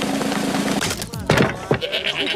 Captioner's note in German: Trommelwirbel; Knacken